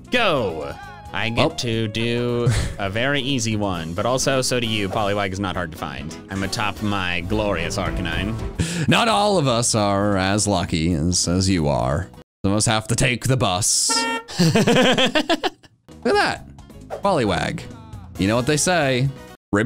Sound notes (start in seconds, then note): 14.2 laugh